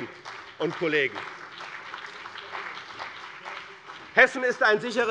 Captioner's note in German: Beifall bei dem BÜNDNIS 90/DIE GRÜNEN und der CDU